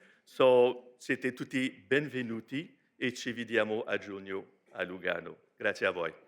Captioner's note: speaks in foreign language